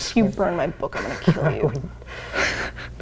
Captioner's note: laughing